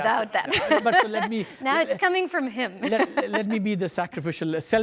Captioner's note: laughs